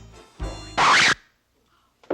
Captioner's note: record scratching